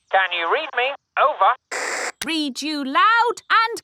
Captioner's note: walkie-talkie crackles; walkie-talkie crackles